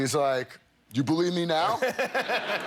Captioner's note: laughter